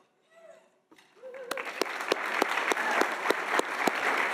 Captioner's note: audience applauding